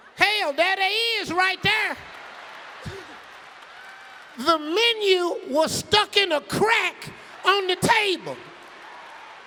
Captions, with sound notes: "Hell, there they is, right there!" (audience laughing) (audience clapping) The menu was stuck in a crack on the table.